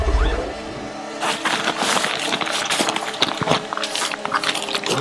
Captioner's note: rustling